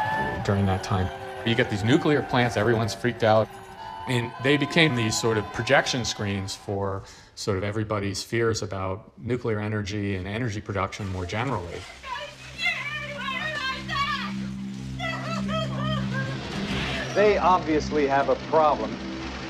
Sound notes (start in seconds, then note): 12.1 women cries